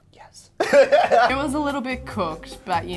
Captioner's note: laughing